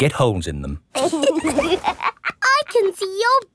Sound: laughs

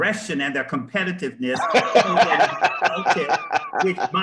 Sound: laughter

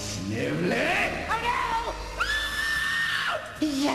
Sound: squeals

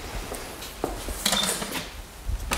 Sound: clacking

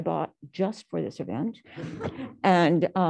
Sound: laughter

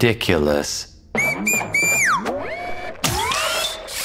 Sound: whistling

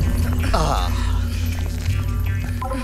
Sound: sighs

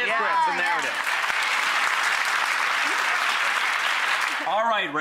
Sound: applause

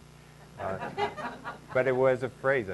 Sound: laughing

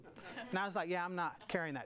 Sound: audience laughs

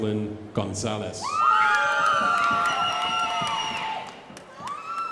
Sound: crowd applauding

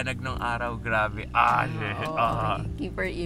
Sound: grumbles in awe

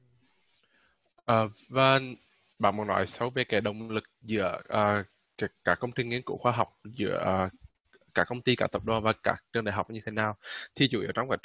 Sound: speaking Vietnamese

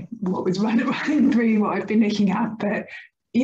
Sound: laughs

